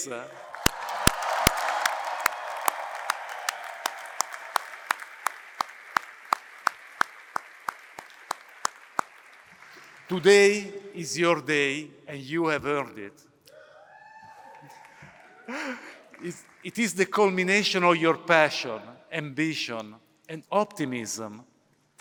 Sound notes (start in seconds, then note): 0.2 applause; 13.5 cheering